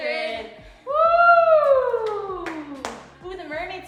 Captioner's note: hands smacking